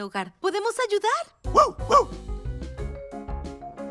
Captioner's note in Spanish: música alegre; ladridos